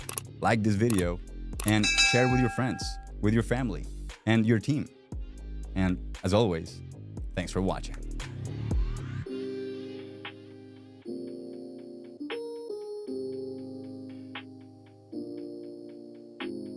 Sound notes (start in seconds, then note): 0.0 computer mouse clicking; 1.6 computer mouse clicking; 1.7 bell dinging; 8.0 smooth hip hop music